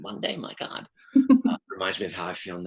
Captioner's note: laughs